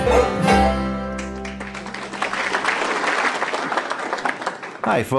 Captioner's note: audience applauding